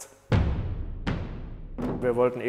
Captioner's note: bangs